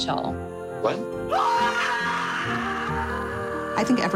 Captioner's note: screams